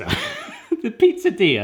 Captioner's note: laughs